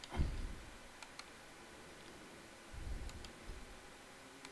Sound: mouse click

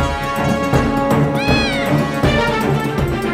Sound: meowing

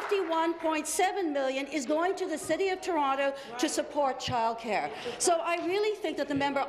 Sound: applause

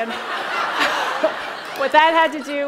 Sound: laughter

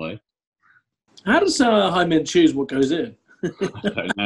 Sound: laughing

